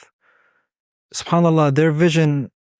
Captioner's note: speaking Arabic